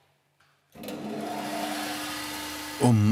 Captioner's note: machine whirring